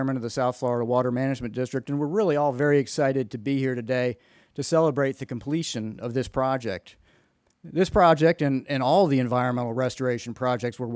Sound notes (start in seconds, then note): none